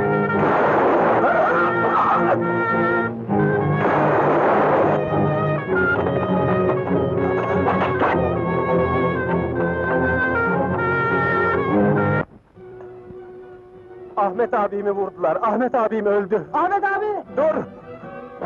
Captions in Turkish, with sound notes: [Tüfek sesi] Aaah! [Tüfek sesleri] Ahmet abimi vurdular.. Ahmet abim öldü! - Ahmet abi! - Dur!